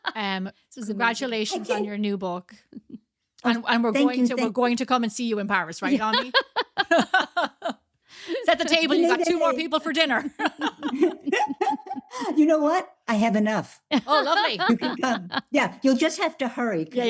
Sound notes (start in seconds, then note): 5.9 laughs; 11.3 laugh